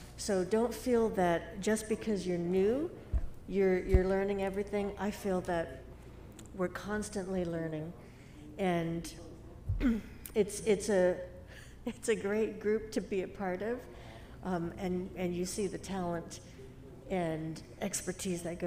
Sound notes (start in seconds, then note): 9.7 clears throat; 10.8 giggling